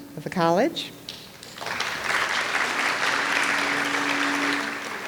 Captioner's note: audience applauds